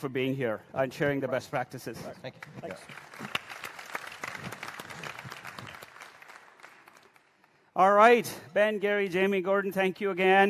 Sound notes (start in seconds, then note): 4.1 applause